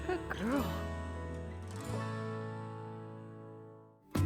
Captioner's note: speaking affectionately to cow